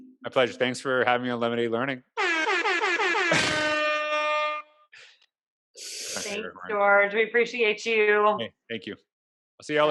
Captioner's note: airhorn shound effect